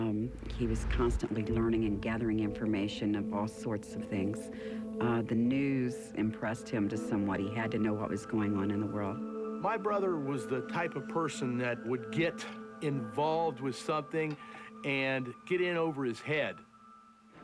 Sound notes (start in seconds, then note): none